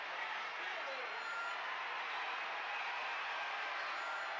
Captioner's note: crowd chattering